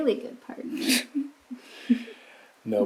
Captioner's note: chuckling